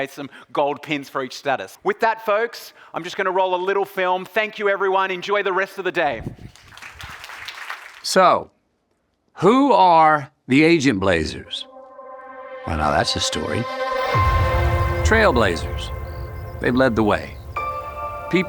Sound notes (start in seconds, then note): 6.5 audience applauding; 14.4 ambient music